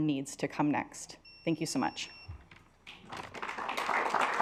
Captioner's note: alarm beeping; assembly clapping